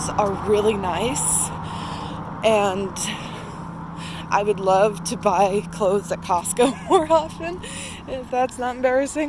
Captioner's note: laughs